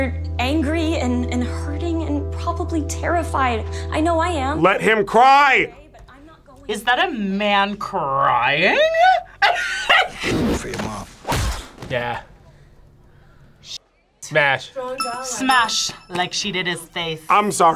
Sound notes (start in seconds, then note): 8.9 laughs